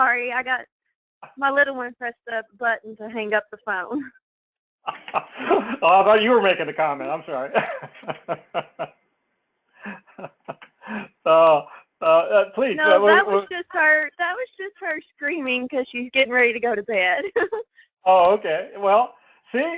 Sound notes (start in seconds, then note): 4.9 laugh; 12.0 laugh; 19.5 laugh